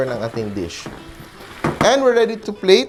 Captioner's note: sizzle